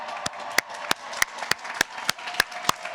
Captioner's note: applause